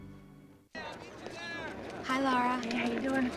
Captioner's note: students chattering